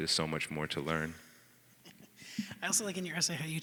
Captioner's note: laughing